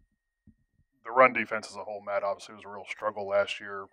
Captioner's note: voiceover